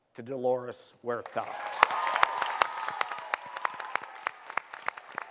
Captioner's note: cheering and applause